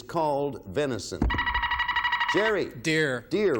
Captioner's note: buzzer beeping